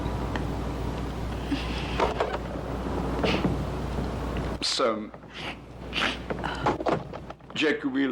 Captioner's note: door Opens